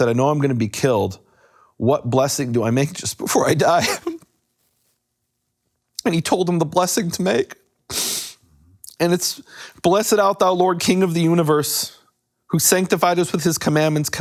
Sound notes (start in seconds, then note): 3.8 sobs